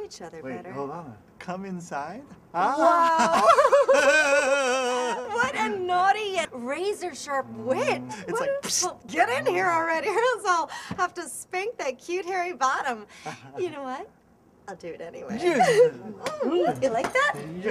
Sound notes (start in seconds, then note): 2.7 giggles; 3.1 chortles